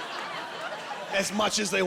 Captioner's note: laughing